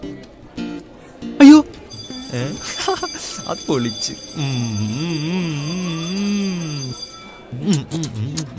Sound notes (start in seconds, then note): 2.6 giggling; 4.0 bell ringing